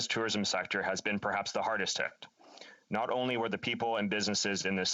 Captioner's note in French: voix de l'interprète